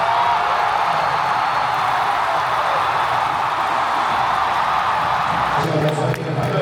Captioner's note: cheers passionately